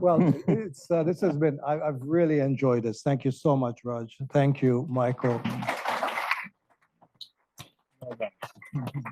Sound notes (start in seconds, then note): 5.3 crowd clapping